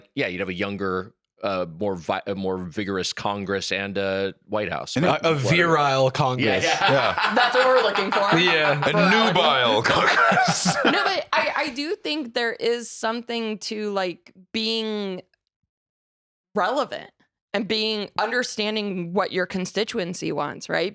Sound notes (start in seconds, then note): 6.4 laughs